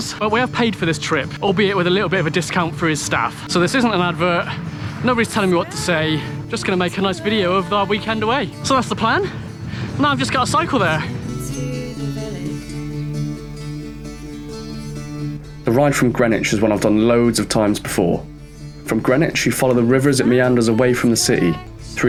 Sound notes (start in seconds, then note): 15.3 voiceover